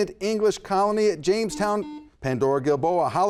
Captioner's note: buzzer buzzes